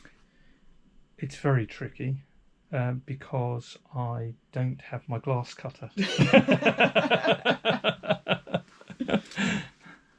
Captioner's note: laughter